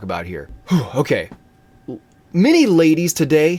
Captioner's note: sigh